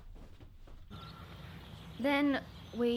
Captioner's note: birds chirping